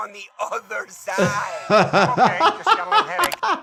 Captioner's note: laughter